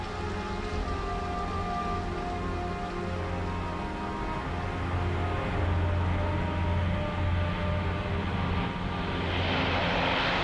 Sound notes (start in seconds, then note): 3.3 plane engine roaring